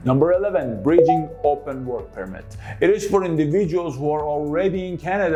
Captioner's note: bowp